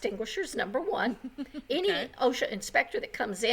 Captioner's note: laughs